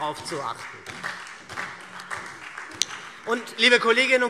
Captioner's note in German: Beifall SPD und Freie Demokraten